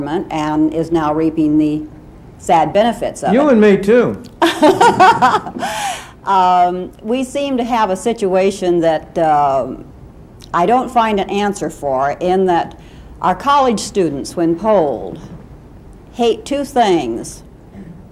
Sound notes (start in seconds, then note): 4.4 laughing